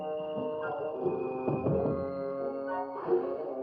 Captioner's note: knocking at the door